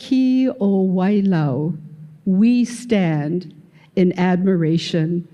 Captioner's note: none